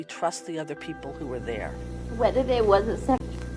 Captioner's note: choking up